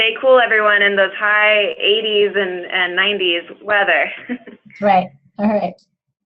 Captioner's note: chuckles